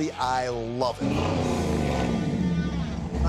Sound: revving

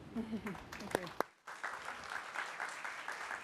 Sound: applause

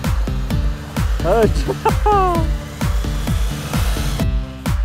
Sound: laughter

